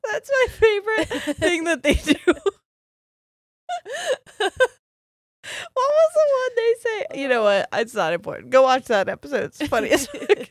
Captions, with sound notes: - That's my favorite thing that they do. (both laughing) What was the one they say? You know what? It's not important. Go watch that episode.